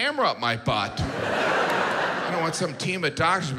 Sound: audience laughs

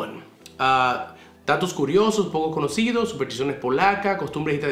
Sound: speaking in Spanish

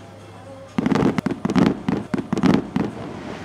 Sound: fireworks popping

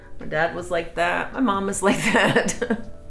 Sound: laughs

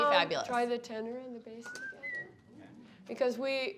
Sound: whistling

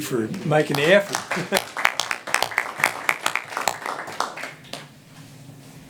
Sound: clapping

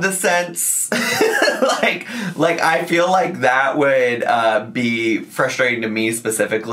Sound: chuckles

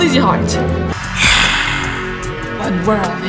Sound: DarthVader breathes

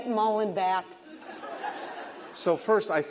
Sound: laughter

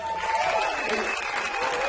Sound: audience applauds

